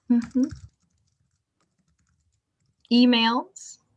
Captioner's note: keyboard clacking